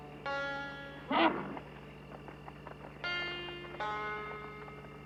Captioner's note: horse nickers